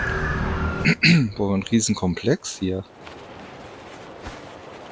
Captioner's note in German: räuspern